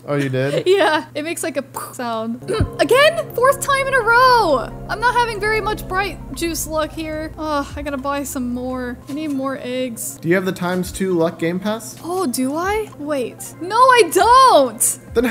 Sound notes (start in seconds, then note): 1.6 mimics explosion